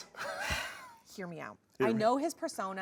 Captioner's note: laughs; sighs